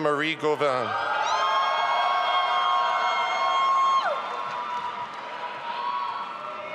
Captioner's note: audience applauding and cheering